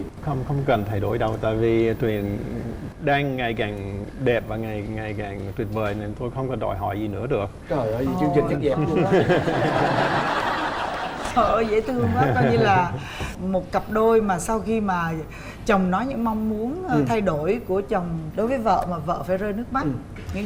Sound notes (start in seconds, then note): 8.8 laughing